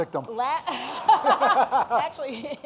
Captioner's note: audience laughing